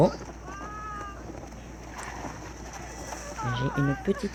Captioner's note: woman crying and John gets off his horse